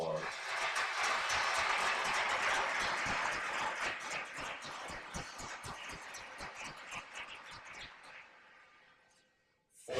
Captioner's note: applause